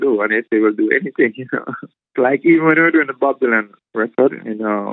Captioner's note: laughter